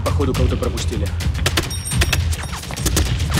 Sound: gunshots

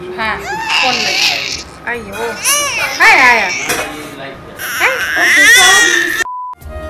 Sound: baby is crying

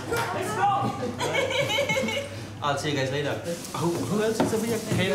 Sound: woman laughs

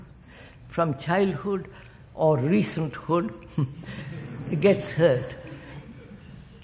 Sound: laughs

